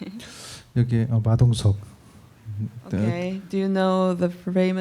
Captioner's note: speaking korean